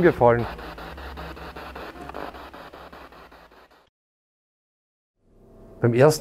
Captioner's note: noise of the spiritbox in the background